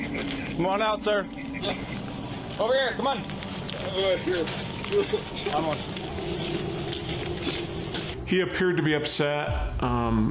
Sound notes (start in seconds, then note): 4.8 sobs